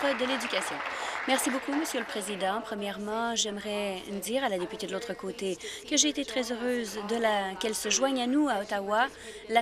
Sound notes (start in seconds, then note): 1.8 applause